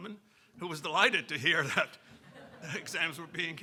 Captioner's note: audience laughing; chuckling